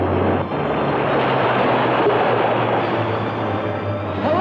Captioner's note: water gushing